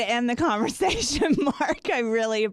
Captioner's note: laughs